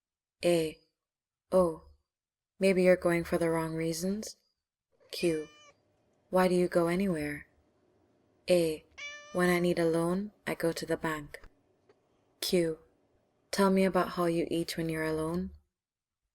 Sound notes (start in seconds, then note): 8.9 meowing